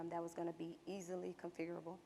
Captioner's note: none